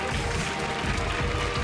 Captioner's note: cheers and applause